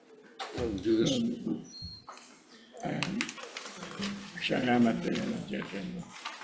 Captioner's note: indistinct conversation